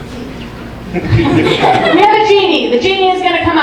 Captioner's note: audience laughing